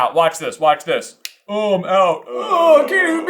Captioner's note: slap